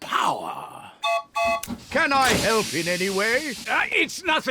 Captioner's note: toots horn